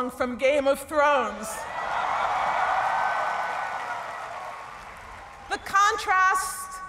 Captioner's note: laughter and cheering